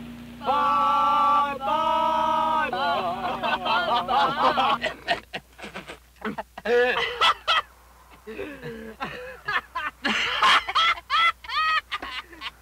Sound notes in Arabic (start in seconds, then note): 2.6 الجميع يضحكون